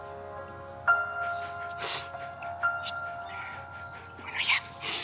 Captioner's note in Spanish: sollozos